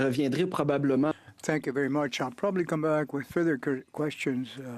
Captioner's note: speaking French